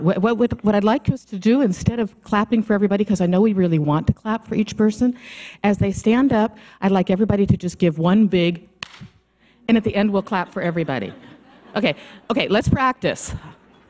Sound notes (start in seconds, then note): 8.8 claps hands